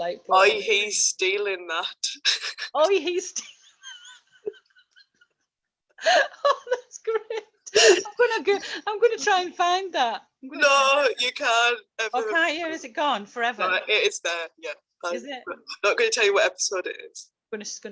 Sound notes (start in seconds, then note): 3.5 laughs